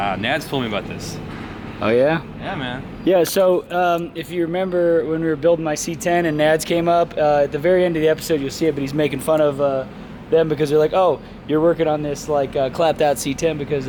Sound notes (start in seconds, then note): none